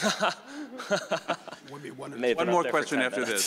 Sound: member laughing

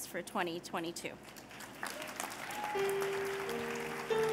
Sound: cheers and applause

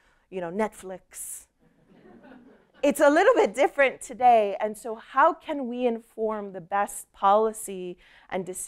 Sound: laughter

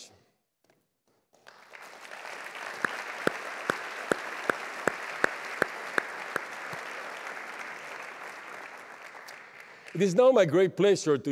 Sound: applause

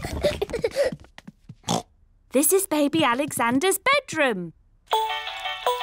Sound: oinks; mobile playing loud music

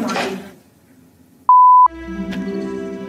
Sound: beep; suspenseful music

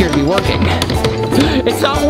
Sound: magnet thuds

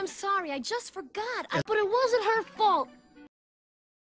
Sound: Flounder interrupts

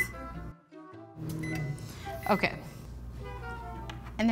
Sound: beeping

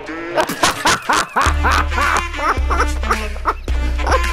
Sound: laughing out of control

